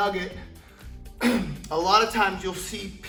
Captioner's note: clears throat